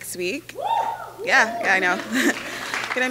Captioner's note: cheering